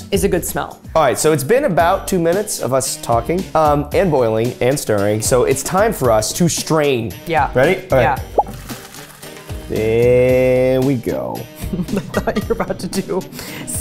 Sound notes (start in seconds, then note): 8.3 noodles sloshing; 11.7 laughing